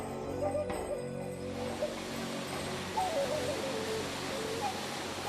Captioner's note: splashing of water